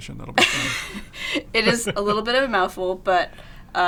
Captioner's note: laughs